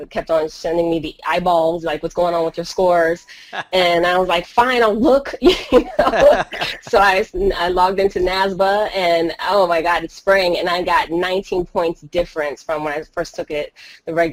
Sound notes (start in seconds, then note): 5.5 laughing